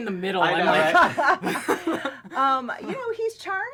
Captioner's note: laughs